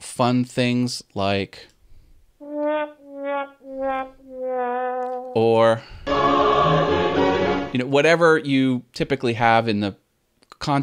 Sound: sad trombone sound

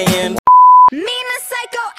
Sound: beep

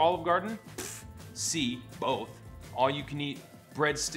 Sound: scoffs

